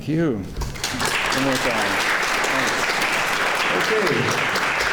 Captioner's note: clapping